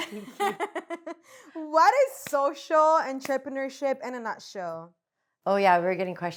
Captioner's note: laughs